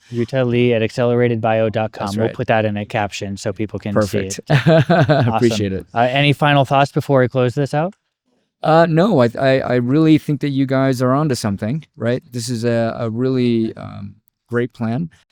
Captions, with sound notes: We'll put that in a caption so people can see it. Perfect. (laughs) Awesome. Appreciate it. Any final thoughts before I close this out? No, I really think that you guys are onto something, right? This is a really great plan.